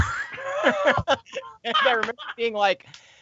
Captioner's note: all laughing